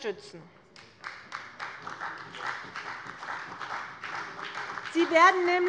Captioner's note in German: Beifall bei der CDU und dem BÜNDNIS 90/DIE GRÜNEN